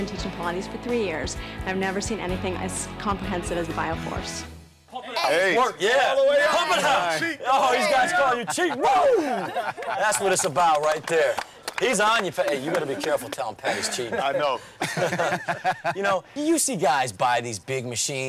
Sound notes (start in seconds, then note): 14.2 laughing